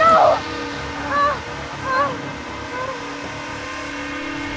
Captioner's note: panting